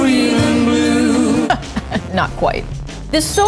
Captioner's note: laughter